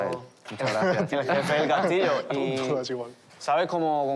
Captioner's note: laughter